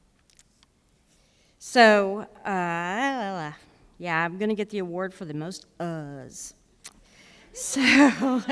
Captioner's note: mumbles